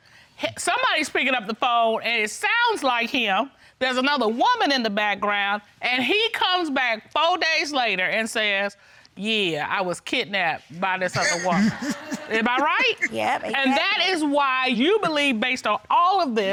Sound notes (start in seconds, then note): 11.1 chuckles